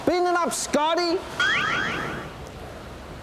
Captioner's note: laser beeps